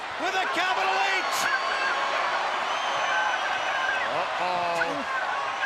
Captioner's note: crowd cheering